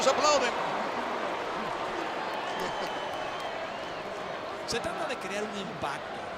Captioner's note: applause